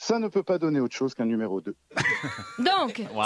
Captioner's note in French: rires